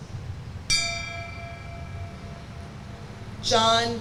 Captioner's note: bell rings